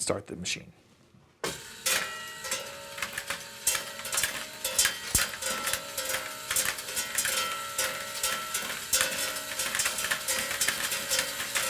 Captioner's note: metallic dropping sounds